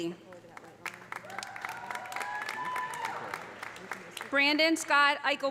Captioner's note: audience applauding; audience cheering